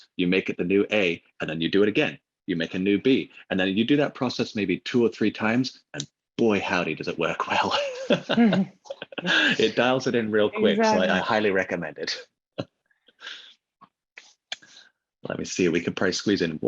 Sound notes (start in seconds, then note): 7.6 laughing